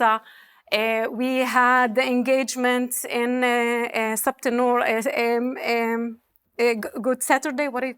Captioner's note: speaking hebrew